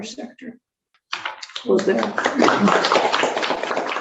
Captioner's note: applause